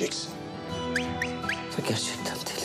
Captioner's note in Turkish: Islık çalıyor